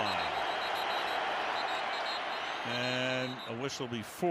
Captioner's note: whistles